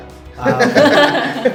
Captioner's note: laughs